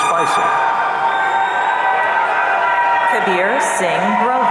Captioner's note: audience cheering